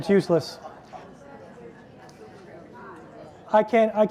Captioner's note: people chatter indistinctly and laugh